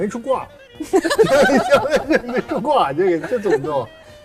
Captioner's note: general laughter